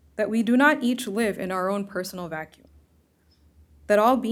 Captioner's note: none